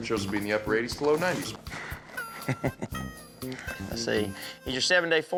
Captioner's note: chuckles